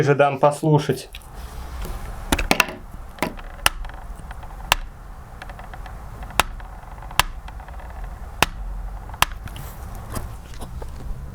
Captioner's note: noisy clicks, but now the source of the sound is closer